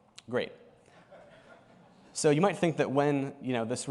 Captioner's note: laughter